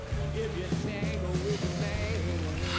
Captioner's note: sniffs deeply